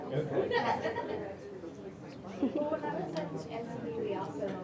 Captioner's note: audience mumbling